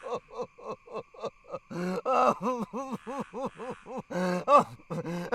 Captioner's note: groaning; Dogmouth sobbing and gasping